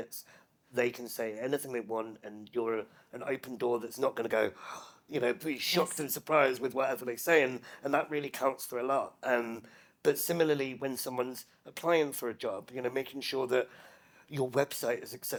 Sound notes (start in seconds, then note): 4.5 gasps